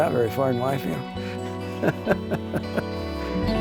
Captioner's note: laughs